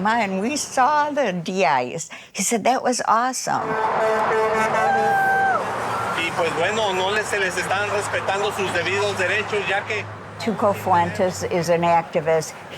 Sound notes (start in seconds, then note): 3.5 horn honking; 6.7 speaking in Spanish